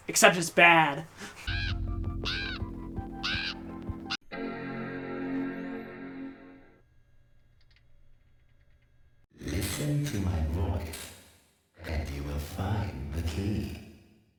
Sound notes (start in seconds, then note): 1.4 crow cawing and music; 4.3 old Windows boot-up sound